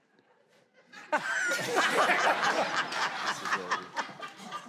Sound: laughing

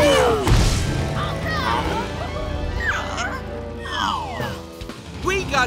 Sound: grunting

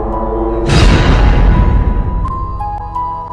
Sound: light eerie music; door slams; light eerie music

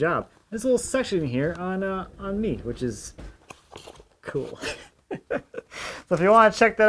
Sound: laughs

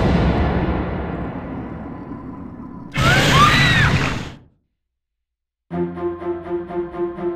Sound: monster growls; Naomi screams

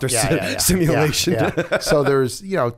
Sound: chuckle

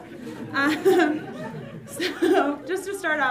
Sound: audience laughs

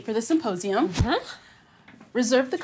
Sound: racket whooshes

